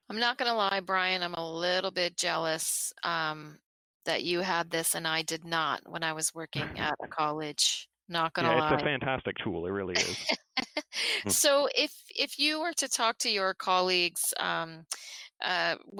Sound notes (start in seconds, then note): 9.9 laughter